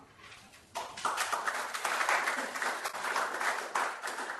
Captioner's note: applause